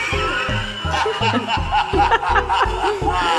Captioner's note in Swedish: Figuren skrattar